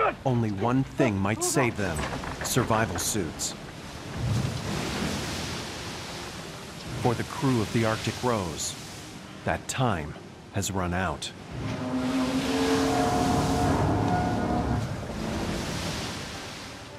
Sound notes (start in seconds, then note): 4.9 water gushing; 12.2 boat metals clanking